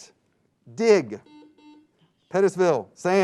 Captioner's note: buzzing sound